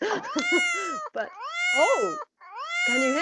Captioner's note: cat miaowing